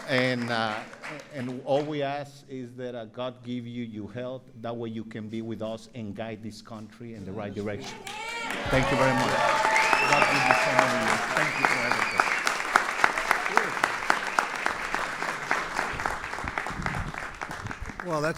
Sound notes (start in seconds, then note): 0.0 applause; 7.9 applause; 10.2 applause